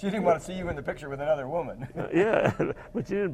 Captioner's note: laugh